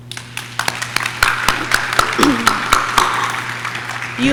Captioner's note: audience claps